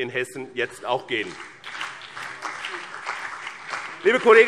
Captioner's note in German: Beifall BÜNDNIS 90/DIE GRÜNEN und vereinzelt CDU